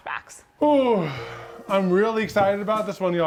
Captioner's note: yawns and sighs